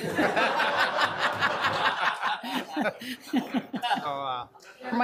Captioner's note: room laughing